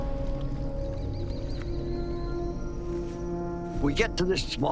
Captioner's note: distant bird cry